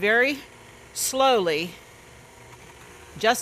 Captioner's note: mixer whirring